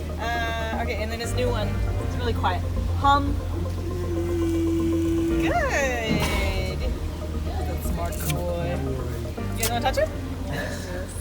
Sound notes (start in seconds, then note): 3.6 walrus makes low humming sound